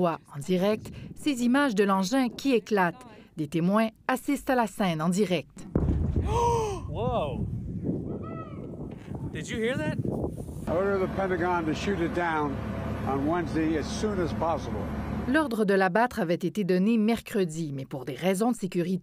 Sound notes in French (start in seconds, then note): 5.7 détonation